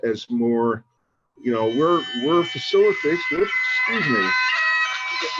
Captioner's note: cell phone ringing